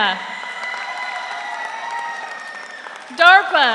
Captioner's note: audience applauds; audience cheers